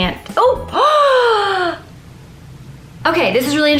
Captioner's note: gasp